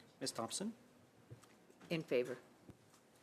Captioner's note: speaking French